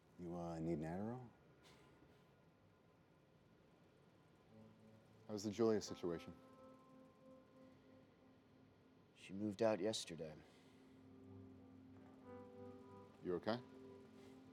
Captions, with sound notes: You, uh, need an Adderall? (Phillip snorting) How's the Julia situation? - She moved out yesterday. - You okay?